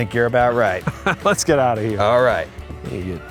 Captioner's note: chuckles